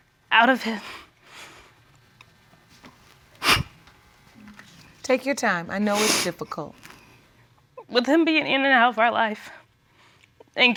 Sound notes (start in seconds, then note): 1.1 voice breaking; 3.3 sobbing